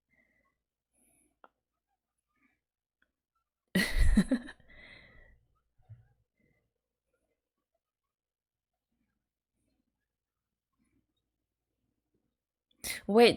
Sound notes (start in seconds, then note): 3.8 laughs